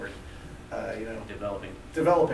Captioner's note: voiceover